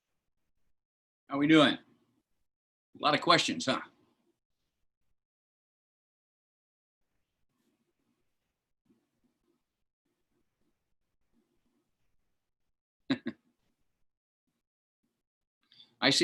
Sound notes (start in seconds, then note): 4.4 laughter